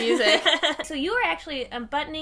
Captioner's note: laughing